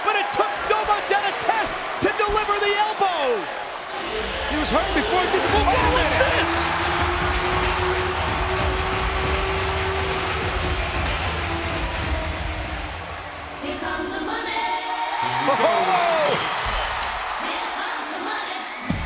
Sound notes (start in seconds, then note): 7.7 audience cheering; 7.7 upbeat music